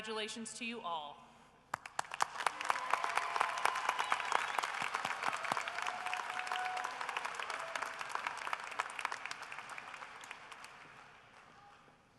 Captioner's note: applause